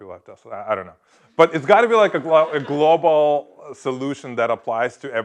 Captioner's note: laugh